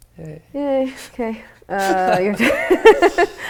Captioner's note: laughing